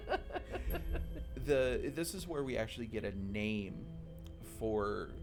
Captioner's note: laughing